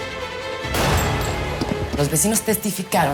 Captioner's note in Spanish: Disparo